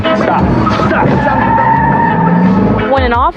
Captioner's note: skidding